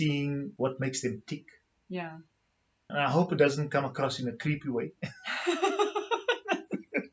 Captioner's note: laughs